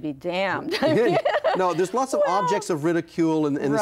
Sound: laughs

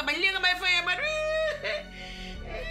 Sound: crying

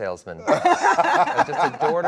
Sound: Gal and Dwayne laughs

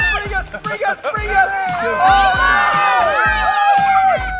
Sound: cheering

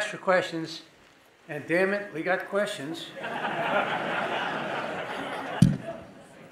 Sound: audience laughing

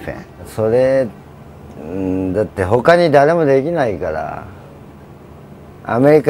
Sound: speaking in Japanese

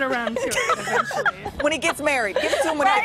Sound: laughter

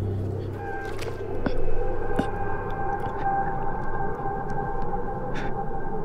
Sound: Lex screaming

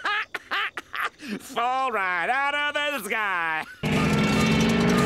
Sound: laughing

